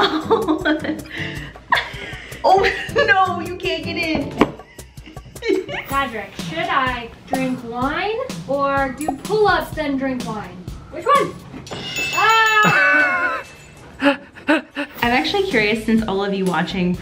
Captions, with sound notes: - Oh (laughs)! Oh no (laughs), you can't get in! - Godric, should I drink wine or do pull-ups then drink wine? Which one? (bell dings) Oh! (laughs) - I'm actually curious since all of you watching